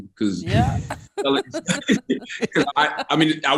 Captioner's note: group laughs